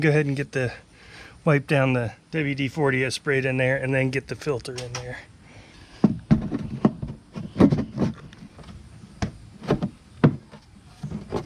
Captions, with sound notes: And then, well, let me get the, wipe down the, WD-40 I've sprayed in there and then get the filter in there. (plastic thumping)